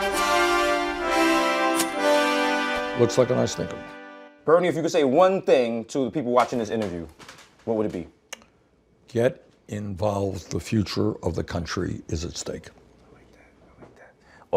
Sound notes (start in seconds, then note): 1.5 ka-ching; 12.8 whispering